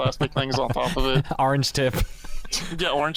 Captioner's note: laughs